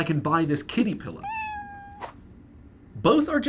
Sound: meow

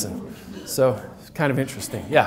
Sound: audience laughs

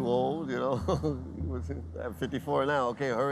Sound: laughs

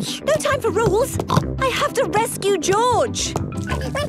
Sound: snorts

